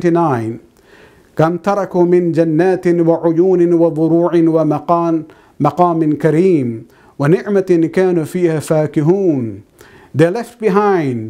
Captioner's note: arabic